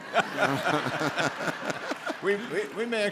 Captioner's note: laughing; audience laughing